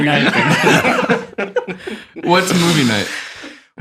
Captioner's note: all laughing